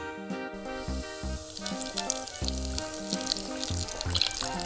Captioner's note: oil sizzling